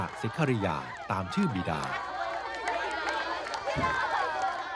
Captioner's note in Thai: ปรบมือ